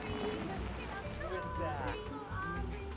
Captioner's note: singsong voice